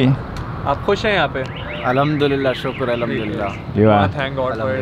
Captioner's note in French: Langue locale